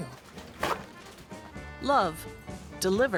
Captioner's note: paper towel torn off roll